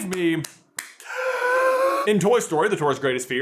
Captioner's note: deep inhale